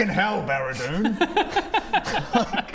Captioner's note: laughs